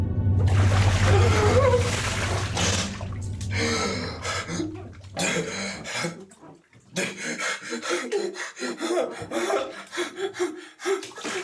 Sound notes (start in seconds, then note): 0.4 water splashing; 1.2 Aiden gasping; 7.8 Aiden whimpering